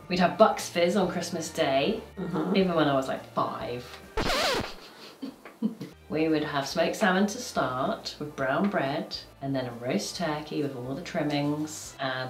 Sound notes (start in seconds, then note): 4.2 record scratches; 4.7 chuckling